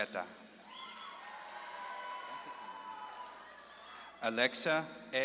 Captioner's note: audience claps and cheers